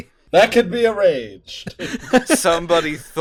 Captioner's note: laughter